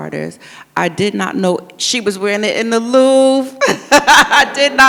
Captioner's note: laughs